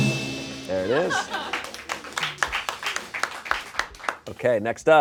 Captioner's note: bell dings; audience applauds